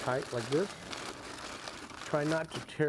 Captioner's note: foil crinkling